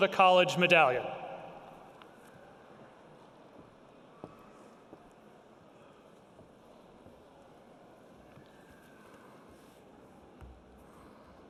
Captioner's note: pause, breathing